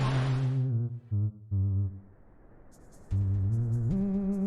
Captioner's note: cold wind fading in; ghoulish music